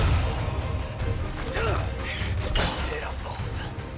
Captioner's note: guns firing